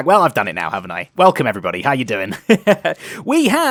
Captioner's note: laughs